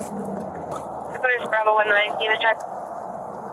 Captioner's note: radio chatter